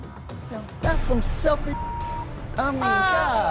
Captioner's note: beep